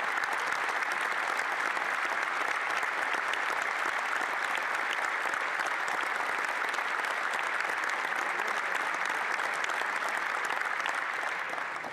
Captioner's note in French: applaudissements